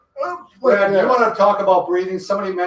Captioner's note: strains